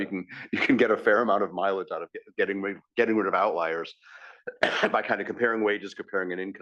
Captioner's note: laugh; cough